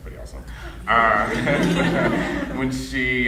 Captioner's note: audience laughing